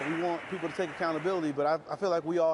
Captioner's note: nats -- clapping